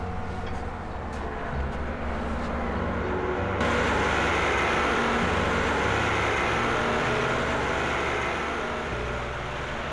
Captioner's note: tractor approaching